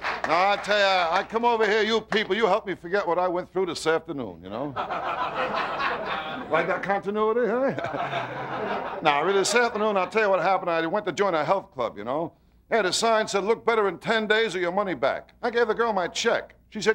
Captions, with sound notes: I tell ya, I come over here, you people help me forget what I went through this afternoon. (audience laughter) Like that continuity, huh? (laughing) Nah, really, this afternoon, I tell ya what happened, I went to join a health club, ya know? Yeah, the sign said, "Look better in ten days, or your money back." I gave a girl my check.